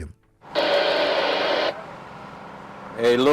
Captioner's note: radio static